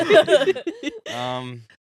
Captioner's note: laughing